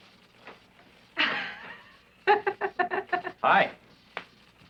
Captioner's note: giggling